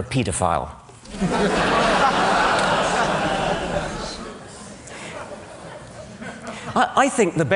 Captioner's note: laughter